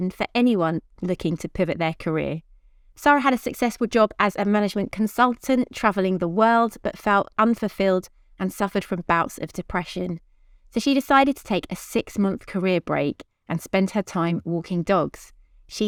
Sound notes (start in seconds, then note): none